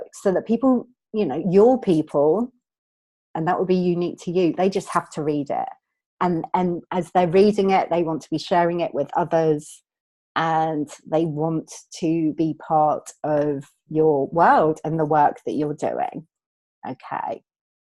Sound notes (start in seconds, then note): none